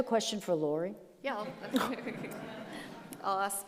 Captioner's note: audience laughs